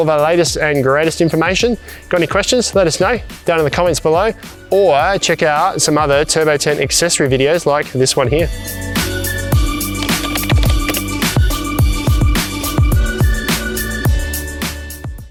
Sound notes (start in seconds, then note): 8.7 upbeat music; 9.8 keyboard clicking